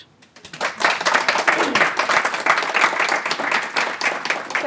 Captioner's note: audience applauding